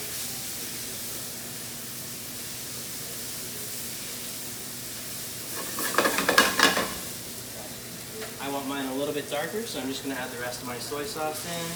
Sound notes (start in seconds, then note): 0.2 ingredients sizzle in the pan; 5.5 pan scrapes against the burner